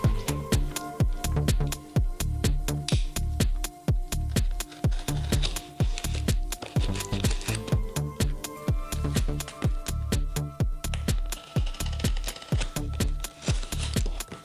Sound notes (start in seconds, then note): 0.2 upbeat music; 4.4 cutting tape; 10.8 cutting tape